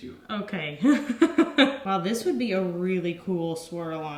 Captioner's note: laughs